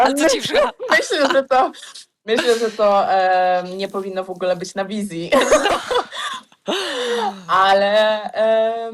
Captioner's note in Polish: śmiech; śmiech